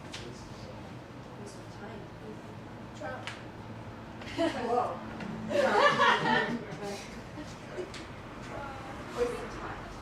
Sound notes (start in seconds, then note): 5.5 laughter